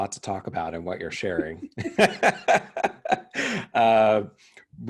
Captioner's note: laughing